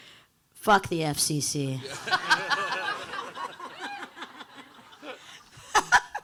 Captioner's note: audience laughing